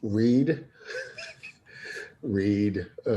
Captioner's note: chuckles